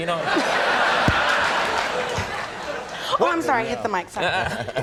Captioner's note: audience laughing